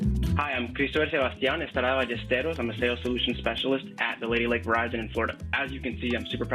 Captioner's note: speaking spanish